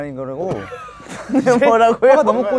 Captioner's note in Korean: 푸흡